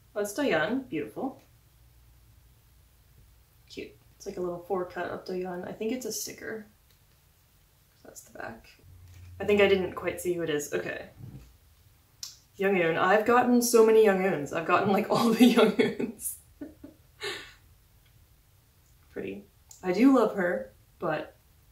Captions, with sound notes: It's Dayeon. Beautiful. It's like a little 4-cut of Dayeon. I think it's a sticker. I think I didn't quite see who it is. Youngeun. I've gotten so many Youngeuns. I've gotten, like, ALL the Youngeuns. *laugh* Pretty. I do love her, but...